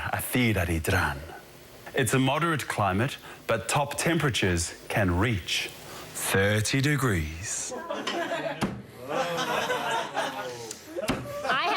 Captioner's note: speaking elvish